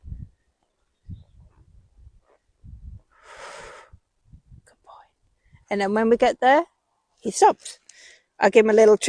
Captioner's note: deep sigh